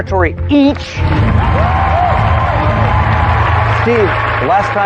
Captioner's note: cheering and applause